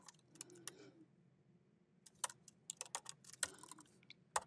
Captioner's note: keyboard clacking